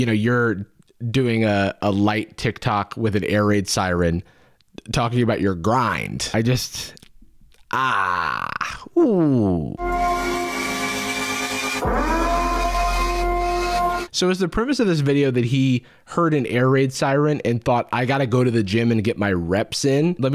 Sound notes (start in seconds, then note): 9.8 air raid siren